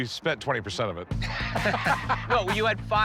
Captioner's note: laughter